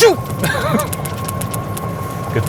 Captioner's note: laughs